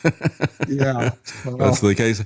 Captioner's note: laughing